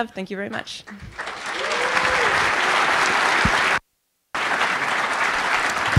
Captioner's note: applause